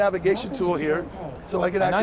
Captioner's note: device speaking